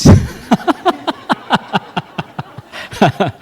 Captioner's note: laughter